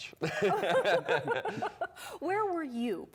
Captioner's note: laughter